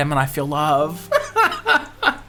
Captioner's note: laughing